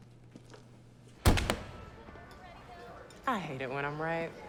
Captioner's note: car door thuds